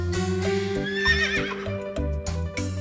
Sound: whinnying

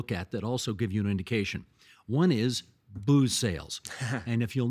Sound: chuckling

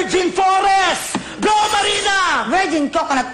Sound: ringgg

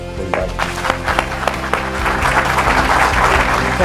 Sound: clapping

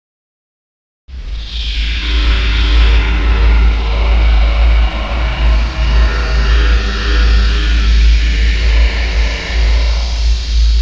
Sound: creepy voice

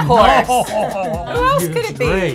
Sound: laughs

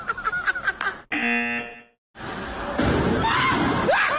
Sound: people laughing; buzzer rings; people laughing

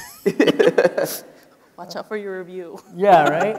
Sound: laughing

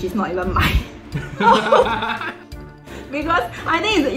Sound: laughs

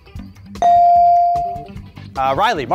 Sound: beep

